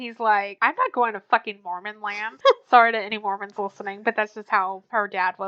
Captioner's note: laughs